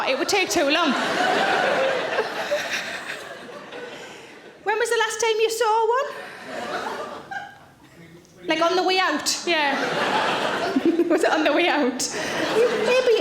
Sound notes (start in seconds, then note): 0.0 audience laughing